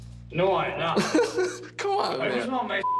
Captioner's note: chuckles